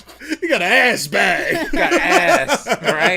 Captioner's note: laughs